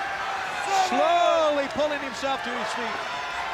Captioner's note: crowd cheering